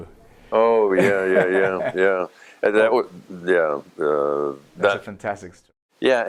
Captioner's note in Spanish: risas